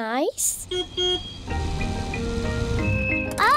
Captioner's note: car horn beeps